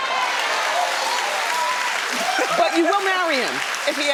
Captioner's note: audience clapping